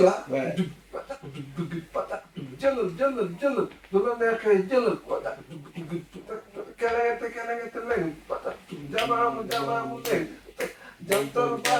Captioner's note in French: Chant